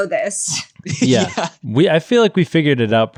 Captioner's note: laughing